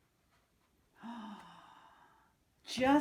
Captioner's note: gasps